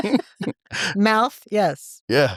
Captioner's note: both laughing